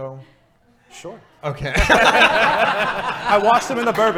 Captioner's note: laughing